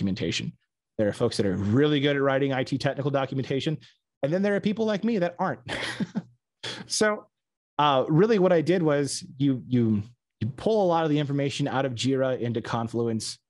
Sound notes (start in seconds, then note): 7.2 laughs